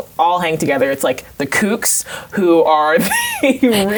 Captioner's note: laughs